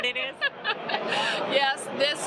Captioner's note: laughs